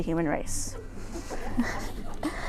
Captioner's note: laughter